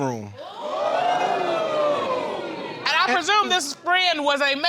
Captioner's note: audience exclaiming